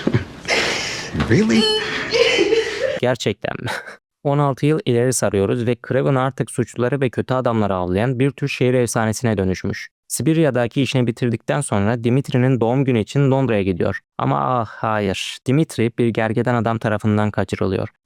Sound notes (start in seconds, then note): 3.8 laughs